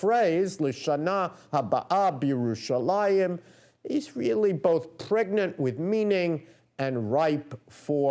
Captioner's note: non-english speech